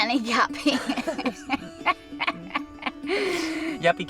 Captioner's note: laughs